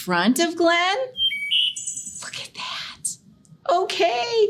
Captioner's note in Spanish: canto de pájaros